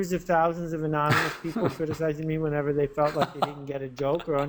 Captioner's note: laughter